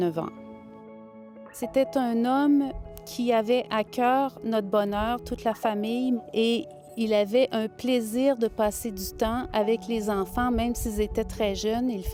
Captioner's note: speaking french